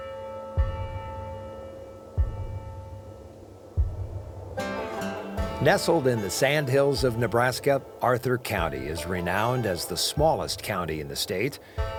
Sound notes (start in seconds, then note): 3.0 soft western music; 3.0 wind blowing